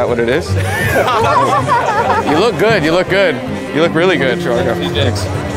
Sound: laughs

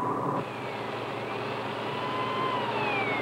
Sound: siren

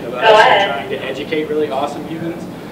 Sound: radio noise

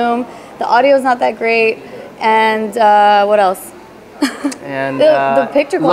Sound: laughs

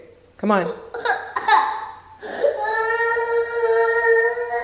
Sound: cries

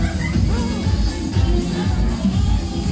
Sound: gasps

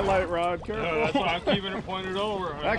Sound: chuckling

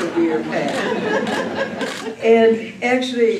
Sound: laughter

